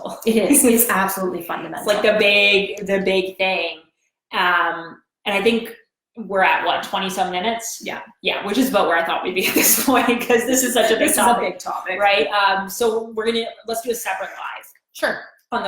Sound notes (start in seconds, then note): 0.8 giggles; 9.5 laughs